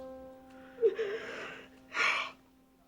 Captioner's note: sobbing